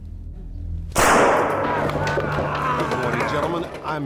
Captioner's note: gunshot